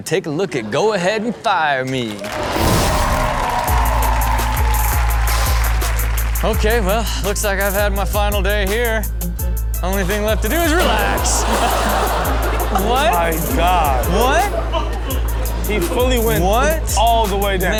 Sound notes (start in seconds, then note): 1.9 audience cheering and applauding; 11.0 water splashing; 11.7 audience laughing